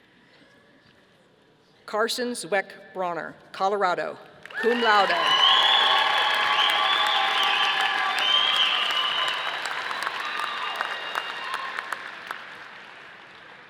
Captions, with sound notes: Carson Zweck-Bronner, Colorado, cum laude. (audience applauding)